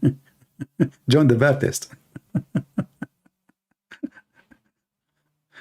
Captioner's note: Ketawa